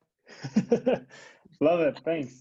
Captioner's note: laughs